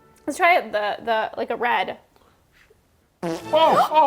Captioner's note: comical farting